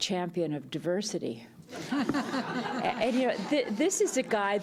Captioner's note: laughter